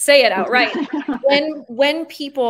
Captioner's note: laughing